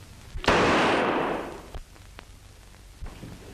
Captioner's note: gunfire pops